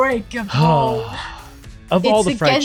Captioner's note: sighing